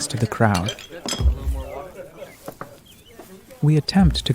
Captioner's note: bar patrons chatter